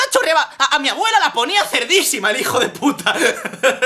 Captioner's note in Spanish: Risas